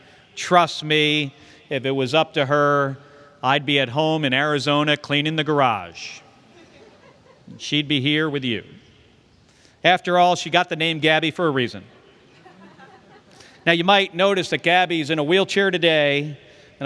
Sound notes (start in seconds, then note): 6.4 laughter; 12.2 laughter